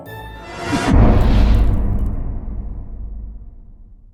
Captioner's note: impact